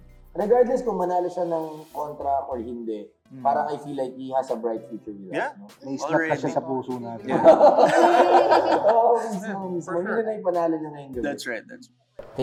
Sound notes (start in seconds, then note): 7.2 chuckles